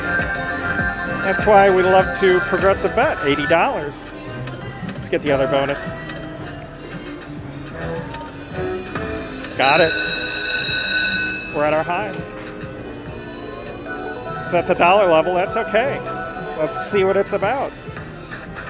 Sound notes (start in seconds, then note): 10.6 bell ringing